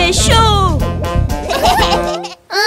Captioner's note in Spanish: Risas